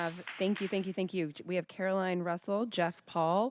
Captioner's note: applause